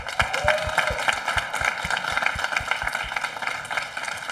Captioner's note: audience applauding